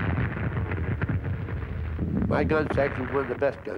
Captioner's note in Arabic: الانفجارات